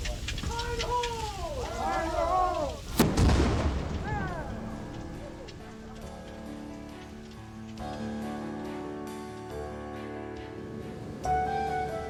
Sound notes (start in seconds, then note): 0.0 answering voices; 3.0 cannonball discharge blast